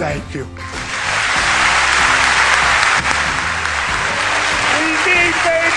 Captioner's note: clapping